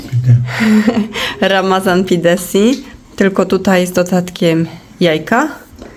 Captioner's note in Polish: śmiech